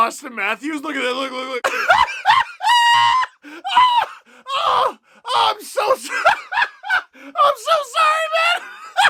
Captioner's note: Maniacal Dark Knight Heath Ledger Joker laughing